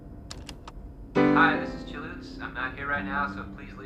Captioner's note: on answering machine